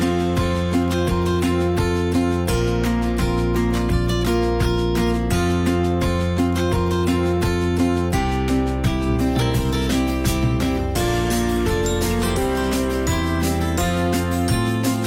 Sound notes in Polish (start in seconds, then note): 11.6 dzwonek